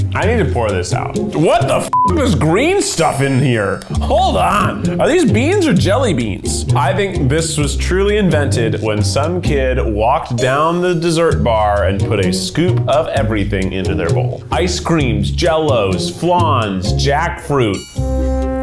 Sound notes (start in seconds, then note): 1.8 beep